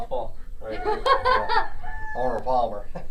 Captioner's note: laughs